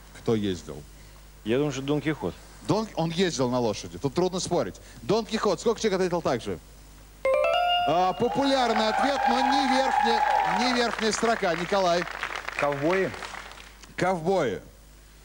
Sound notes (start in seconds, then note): 8.2 applause